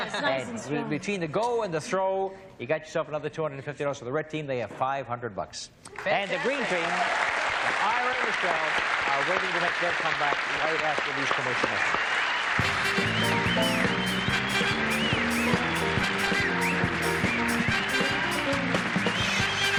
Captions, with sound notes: - Yes, nicely. And between the go and the throw, you got yourself another $250 for the red team. They have 500 bucks. And the green team. [applause, cheering] [music, applause]